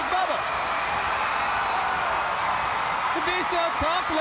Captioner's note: audience cheering